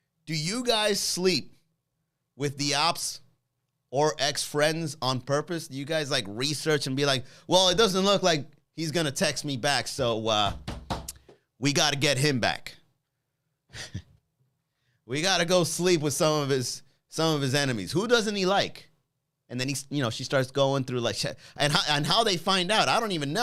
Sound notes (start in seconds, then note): 10.4 knocking; 13.7 chuckles